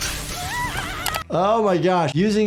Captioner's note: dramatic music; robot exclaiming